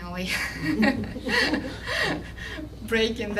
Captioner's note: laughter